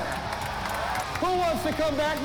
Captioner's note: crowd cheering